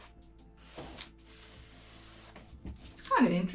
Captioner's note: scratching